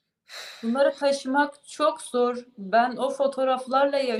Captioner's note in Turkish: iç çeker